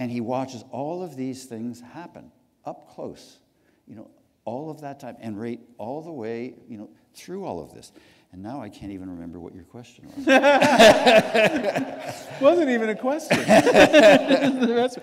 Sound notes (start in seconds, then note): 10.1 laughter; 14.8 laughter